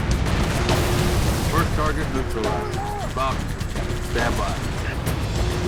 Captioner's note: radio